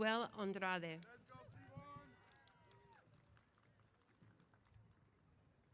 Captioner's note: applause & Cheers